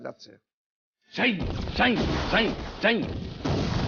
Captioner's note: firing sound